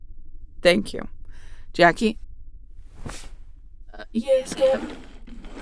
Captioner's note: satisfied tone